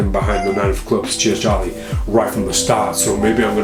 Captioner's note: cat meows